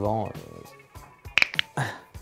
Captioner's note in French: craquement d'articulations x6